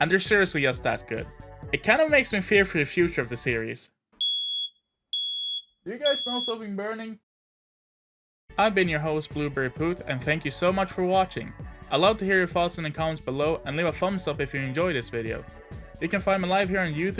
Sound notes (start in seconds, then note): 6.0 fire-Alarm sounds off